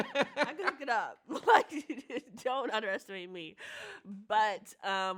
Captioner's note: chuckles